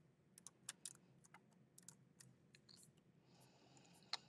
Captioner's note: keyboard clacking